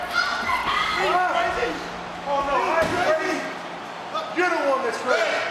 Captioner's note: people yelling